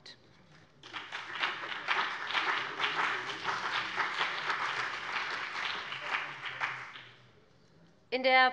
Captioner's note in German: Beifall BÜNDNIS 90/DIE GRÜNEN und CDU